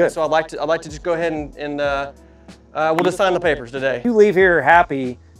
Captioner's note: claps